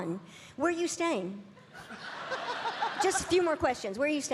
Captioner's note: audience laughing